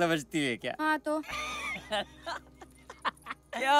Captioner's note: Laughs